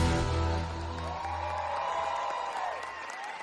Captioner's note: applause